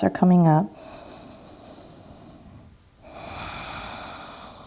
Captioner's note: breathing deeply